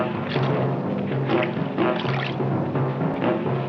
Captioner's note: water splashing